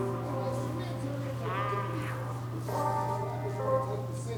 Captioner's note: television plays